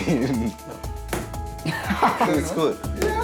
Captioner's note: laughing